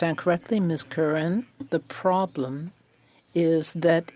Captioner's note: speaking French